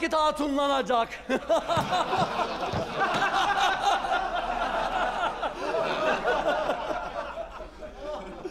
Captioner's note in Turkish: Gülme sesleri